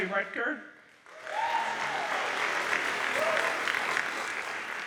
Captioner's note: audience applauds